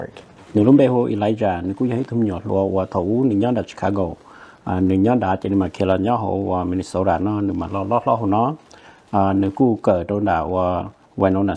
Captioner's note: Speaking in Hmong